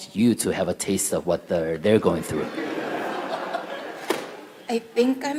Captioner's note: audience Laughter